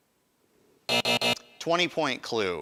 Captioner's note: buzzer buzzing